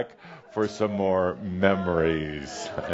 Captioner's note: audience is saying “Nooo!” and Adamus chuckles